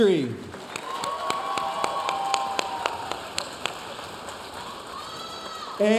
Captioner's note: audience cheering and applauding